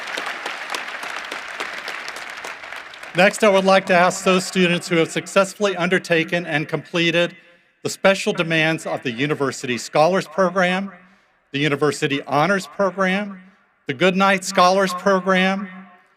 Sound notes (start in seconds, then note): 5.4 applause